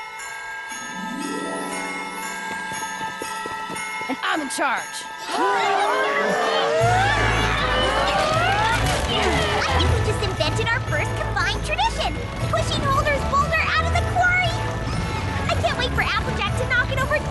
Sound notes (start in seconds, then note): 1.4 bells; 5.4 grunts and groans